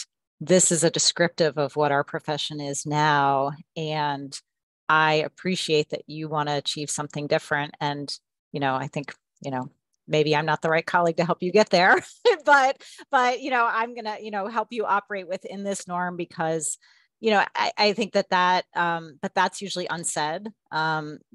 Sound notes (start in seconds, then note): 11.9 laughter